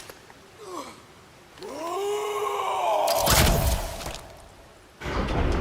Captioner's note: Gritos desafiantes